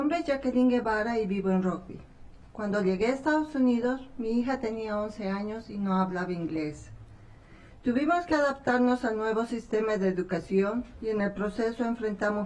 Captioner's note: speaking spanish